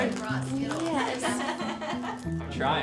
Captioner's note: woman laughs